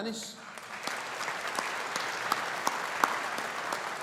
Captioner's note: audience applauding